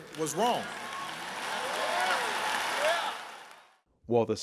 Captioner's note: applause